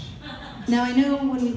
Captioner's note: audience laughter